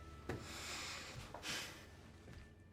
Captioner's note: sighs